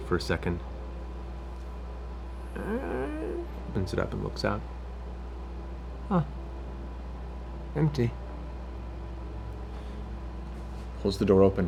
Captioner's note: creak